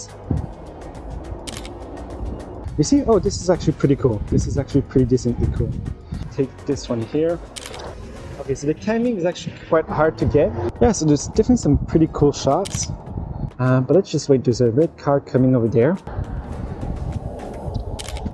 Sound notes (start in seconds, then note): 0.0 car passing; 1.4 camera clicking; 7.5 camera clicking; 7.5 car passing; 12.6 camera clicking; 16.0 car passing